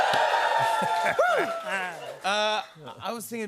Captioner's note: cheers and applause